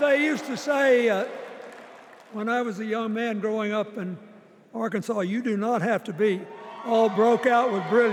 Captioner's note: applause